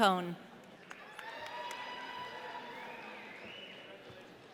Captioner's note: audience cheering